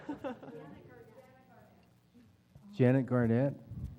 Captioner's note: laugh